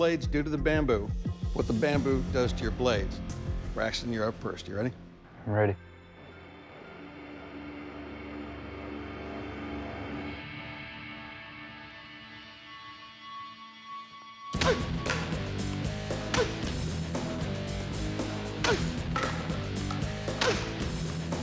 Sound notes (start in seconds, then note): 5.9 suspenseful music; 14.1 grunting; 16.9 heavy metal music